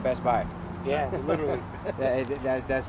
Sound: laughs

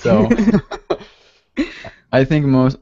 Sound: chuckles

